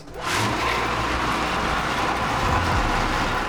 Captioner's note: blitzer roars